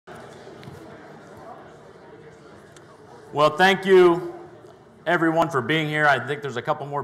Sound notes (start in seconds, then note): 0.0 crowd talking